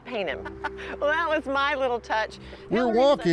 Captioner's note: laughing